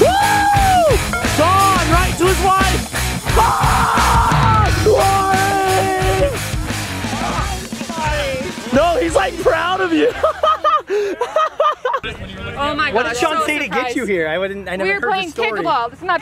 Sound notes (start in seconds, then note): 3.2 screaming; 9.8 laughs